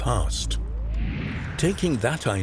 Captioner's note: air wooshing